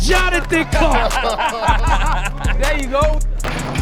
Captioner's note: cheering, laughing, and clapping